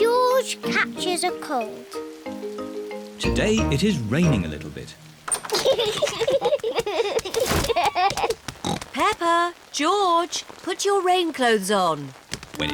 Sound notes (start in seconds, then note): 5.4 both giggling; 8.6 oinks